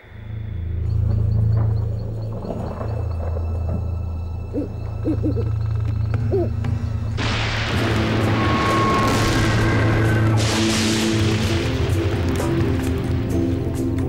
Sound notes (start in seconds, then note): 4.4 owl hooting; 7.2 loud thunder